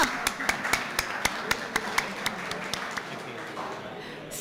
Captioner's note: applause